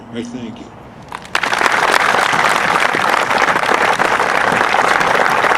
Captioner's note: audience applauding